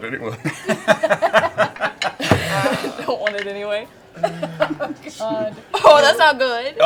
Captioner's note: laughs